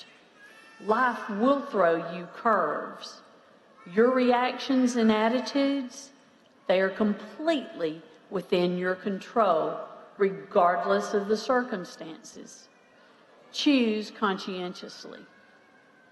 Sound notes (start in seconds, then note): none